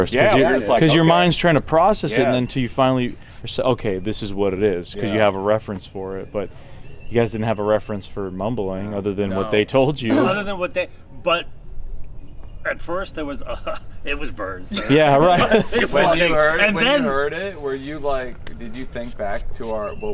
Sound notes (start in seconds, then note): 14.6 laughing